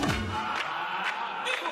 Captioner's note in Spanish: aplausos